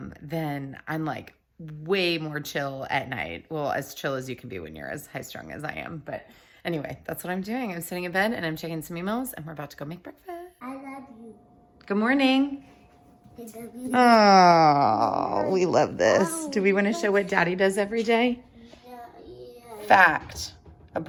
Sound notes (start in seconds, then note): 13.9 mumbles